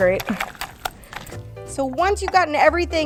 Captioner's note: liquid sloshing